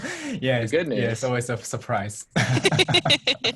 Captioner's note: laughs